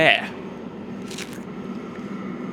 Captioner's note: chomps a pear